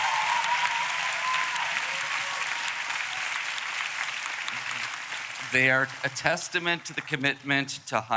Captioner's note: applause